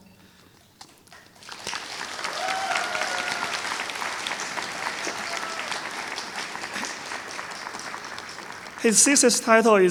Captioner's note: applause